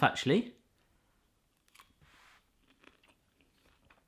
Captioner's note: chewing loudly